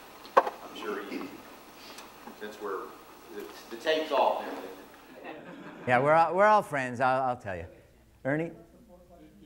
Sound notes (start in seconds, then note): 5.0 audience laughs